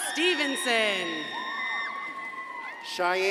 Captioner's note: crowd cheering and applauding